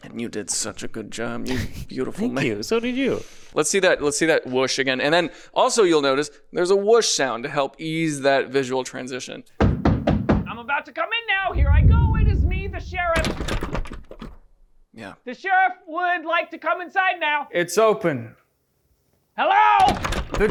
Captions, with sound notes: And you did such a good job, you beautiful man- - Thank you, so did you. - Let's see that whoosh again. And then, also you'll notice there's a whoosh sound to help ease that visual transition. (knocking on the door) - I'm about to come in now. Here I go. It is me, the sheriff. (door rattles) The sheriff would like to come inside now. - It's open. - Hello? (door rattles)